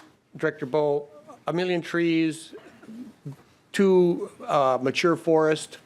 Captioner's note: laughing